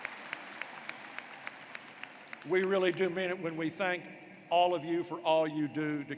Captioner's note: applause